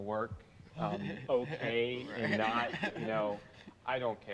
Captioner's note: laughter